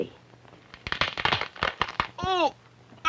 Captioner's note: horrible cracking